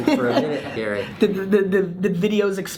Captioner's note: laughs